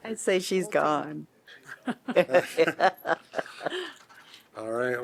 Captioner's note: laughter